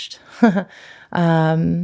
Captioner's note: laughs